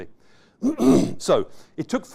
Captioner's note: clears throat